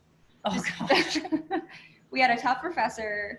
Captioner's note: laughter